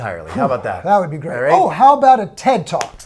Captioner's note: sighs sharply